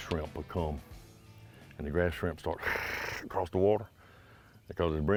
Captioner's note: chittering